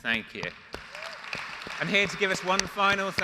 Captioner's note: audience applauds